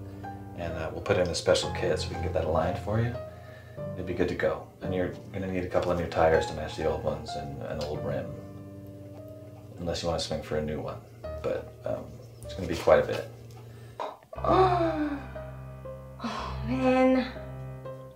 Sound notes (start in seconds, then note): 14.4 exclaiming sigh